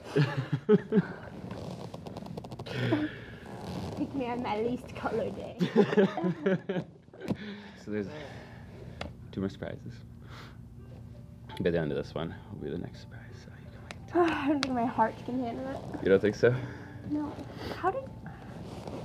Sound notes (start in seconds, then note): 0.1 laughs; 6.4 laughs